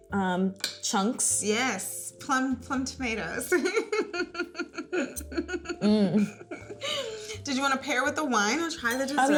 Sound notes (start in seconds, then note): 3.5 giggling